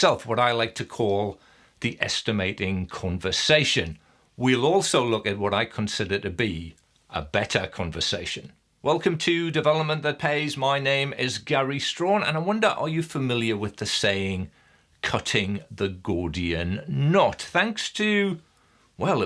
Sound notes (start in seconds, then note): none